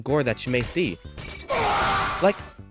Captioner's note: flight Scream